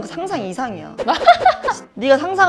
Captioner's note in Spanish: jajaja